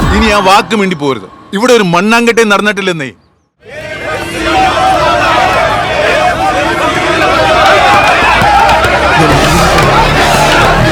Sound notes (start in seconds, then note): 3.6 protest Commotion